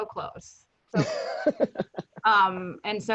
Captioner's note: laughing